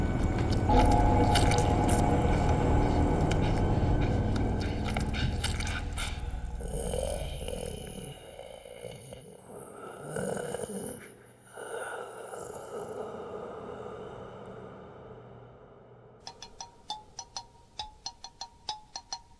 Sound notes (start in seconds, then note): 13.3 growling reverberates